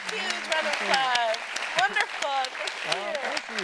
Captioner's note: audience applauding